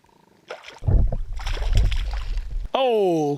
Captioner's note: splashing